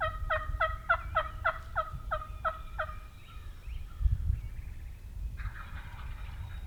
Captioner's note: other birds chirp and trill in the distance; hunters and turkeys continue to call back and forth